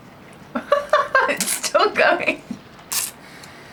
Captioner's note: laughter